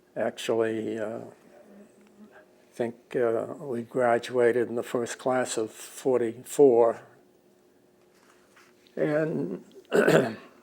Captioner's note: clears throat